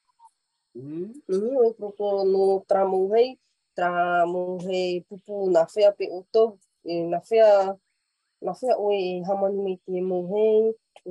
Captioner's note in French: et sa mère parlent paumotu